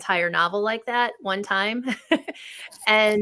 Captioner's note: laughs